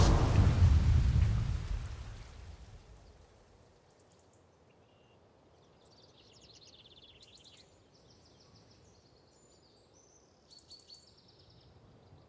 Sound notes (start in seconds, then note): 4.3 birds chirping